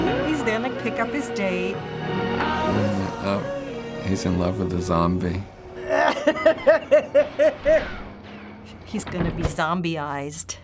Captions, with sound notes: - He's there to pick up his date. - Mmm, uh-oh. He's in love with a zombie. (laughing) (distant gunfire) - He's gonna be zombie-ized.